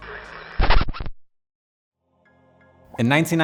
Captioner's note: static crackling